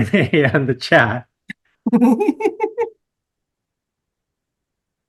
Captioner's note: laughter